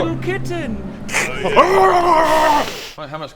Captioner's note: kkch hrrgrrgghhrgrhgghaah; hissss